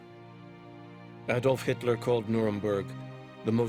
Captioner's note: voiceover